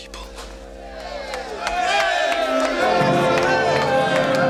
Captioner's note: cheers and applause